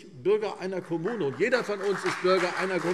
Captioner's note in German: Beifall CDU und BÜNDNIS 90/DIE GRÜNEN